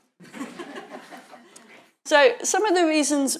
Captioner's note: audience laughing